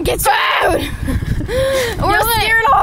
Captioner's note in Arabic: تزأر